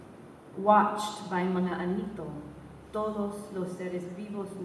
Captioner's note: spanish & tagalog